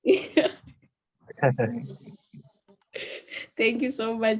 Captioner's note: panel laughs